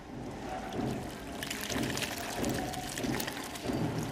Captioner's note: soup pouring